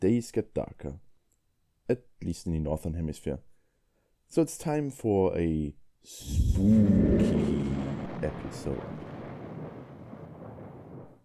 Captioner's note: thunder